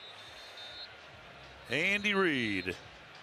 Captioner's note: whistle